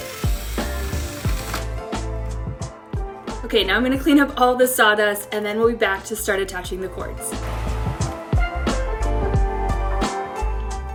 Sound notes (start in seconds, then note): 0.1 upbeat music; 1.7 drill whirs; 7.1 upbeat music